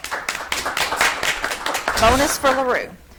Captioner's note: audience clapping